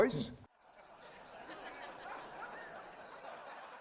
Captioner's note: laughing